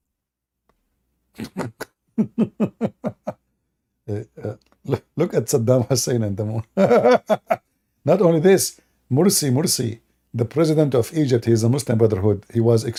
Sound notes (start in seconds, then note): 2.1 Ketawa